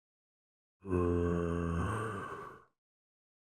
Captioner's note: zombie groans in satisfaction